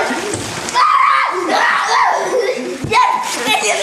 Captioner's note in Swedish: skriker